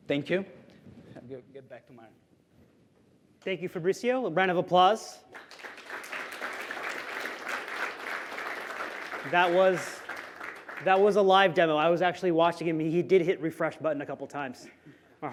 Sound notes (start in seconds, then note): 5.2 applause